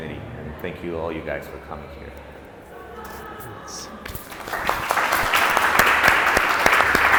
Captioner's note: clapping